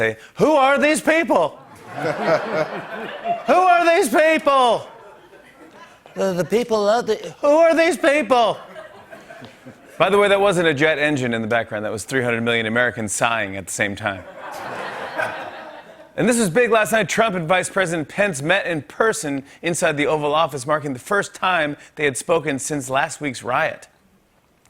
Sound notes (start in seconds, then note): 8.4 laughter; 14.2 laughter